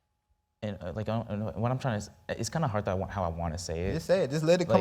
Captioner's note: stammering